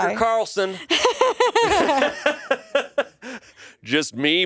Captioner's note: everyone laughs